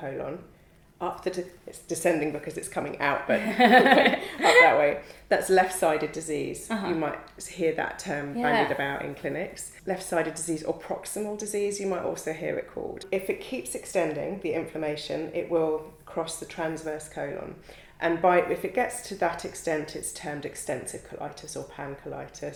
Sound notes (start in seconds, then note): 3.3 laughing